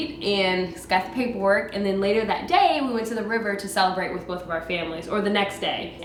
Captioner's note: none